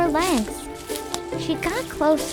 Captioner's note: leaves rustle